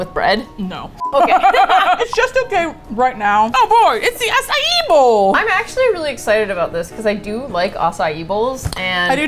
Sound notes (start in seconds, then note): 0.2 chuckles wryly; 1.1 both laugh